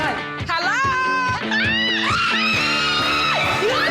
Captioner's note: both girls screaming